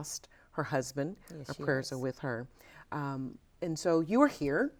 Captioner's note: pat